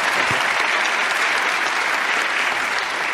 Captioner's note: clapping